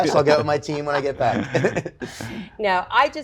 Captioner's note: laughter